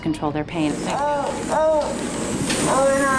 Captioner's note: groans